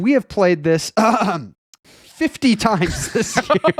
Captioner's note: laughs